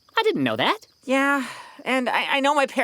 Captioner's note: sighs